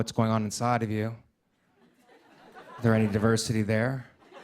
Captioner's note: laughter